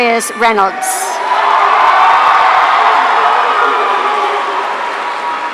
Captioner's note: audience cheering